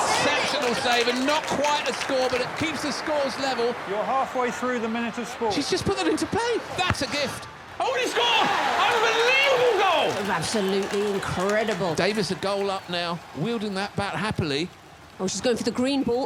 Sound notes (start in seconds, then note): 0.6 audience cheering; 10.6 audience cheering